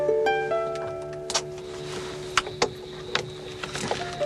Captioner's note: crickets chirping